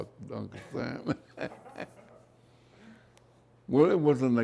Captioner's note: laughs